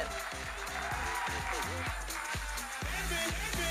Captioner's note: audience cheering and applauding